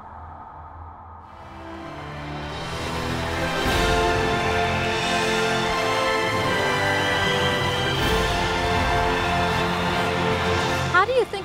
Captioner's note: cheering